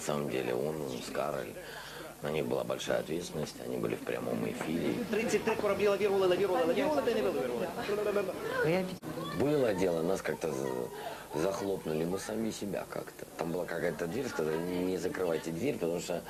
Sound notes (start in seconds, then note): 5.2 man talking, vocal exercises